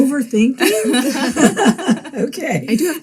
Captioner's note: group laughing